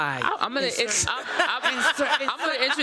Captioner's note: laughter